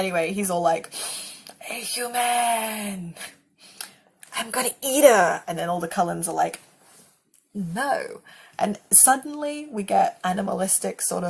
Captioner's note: sniff